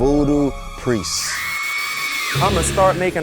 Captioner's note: speakers screaming